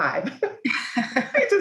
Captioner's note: laughter